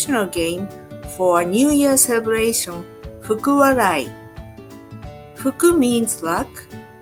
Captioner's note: speaking in Japanese language